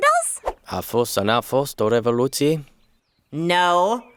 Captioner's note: speaking in another language